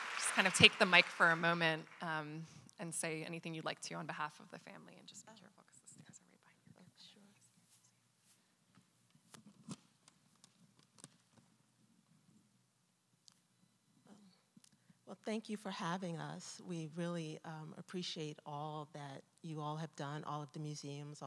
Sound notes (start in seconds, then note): 9.6 paper rustling